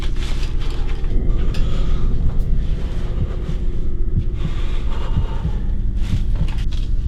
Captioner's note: Scott shuddering; heart beating